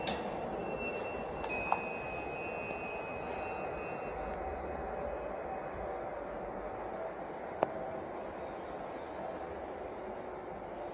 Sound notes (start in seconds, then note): 0.0 chime